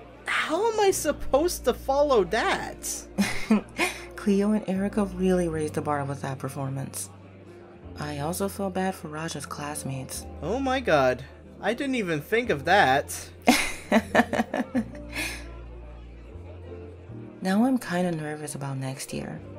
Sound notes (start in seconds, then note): 3.2 giggles; 13.4 Fatima laughs